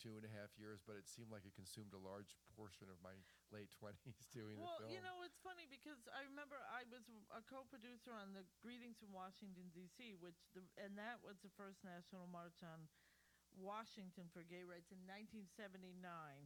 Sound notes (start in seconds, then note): 4.0 laughter